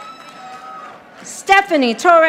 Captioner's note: audience applauding